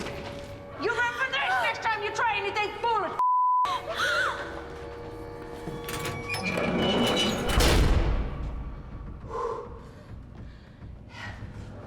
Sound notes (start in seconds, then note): 8.8 exhales